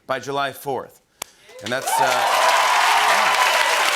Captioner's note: cheers and applause